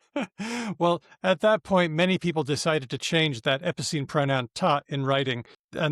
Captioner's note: laughs